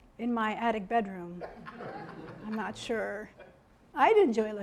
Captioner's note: audience laughing